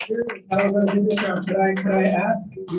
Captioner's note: applause